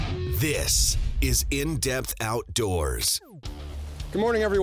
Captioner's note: voiceover